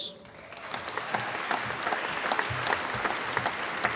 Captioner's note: applause